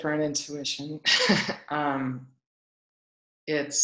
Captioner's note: laughs